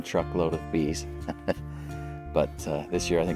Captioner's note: laugh